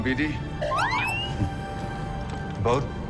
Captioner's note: bd-1 chirps